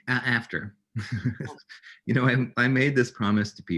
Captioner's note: giggles